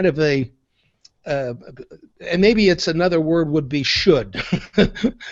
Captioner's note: laughs